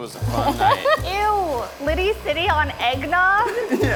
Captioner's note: laughing